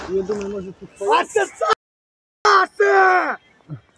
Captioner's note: shout